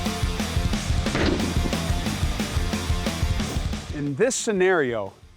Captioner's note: heavy metal music; gun shot